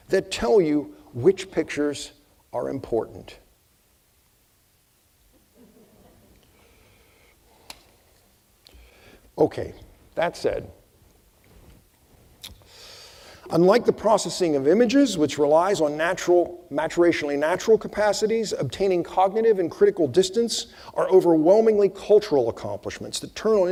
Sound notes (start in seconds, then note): 5.3 audience chuckling